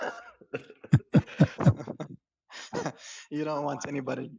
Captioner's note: ketawa